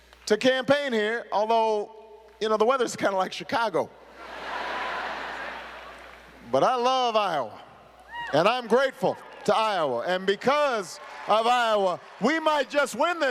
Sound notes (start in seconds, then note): 5.9 laughter